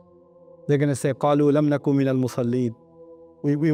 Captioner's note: Arabic